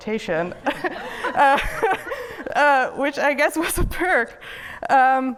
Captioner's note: laughs